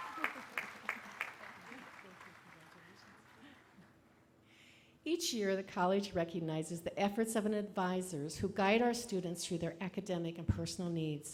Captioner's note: applause